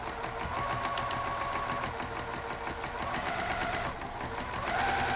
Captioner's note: sewing machine humming